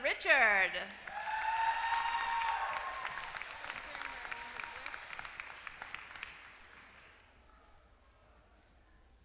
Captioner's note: applause